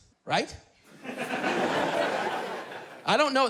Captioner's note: laughter